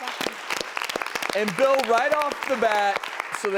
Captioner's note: applause